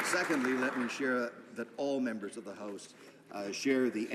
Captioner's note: applause